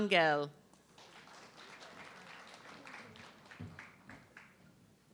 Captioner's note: audience clapping